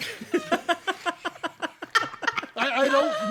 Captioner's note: laughter